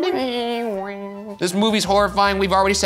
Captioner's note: imitating creepy organ music